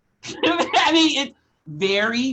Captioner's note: laughs